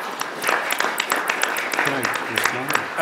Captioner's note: applause